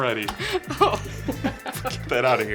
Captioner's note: laughing